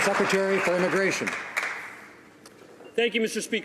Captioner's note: some Applause